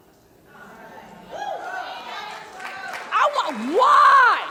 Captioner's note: audience cheering